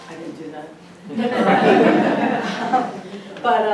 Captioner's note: audience laughs